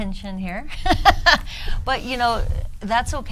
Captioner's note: woman laughs